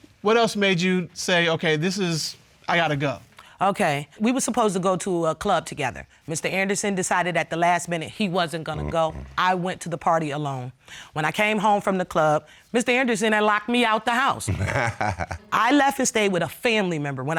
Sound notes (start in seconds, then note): 14.4 laughs